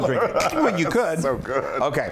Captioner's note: laugh